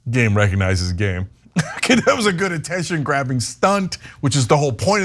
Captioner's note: laugh